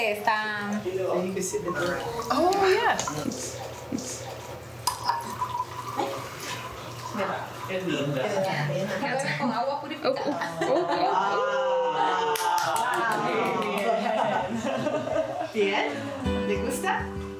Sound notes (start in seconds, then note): 0.0 speaking foreign language; 8.5 speaking foreign language; 10.2 all laughing; 13.5 speaking foreign language